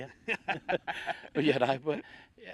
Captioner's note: both laugh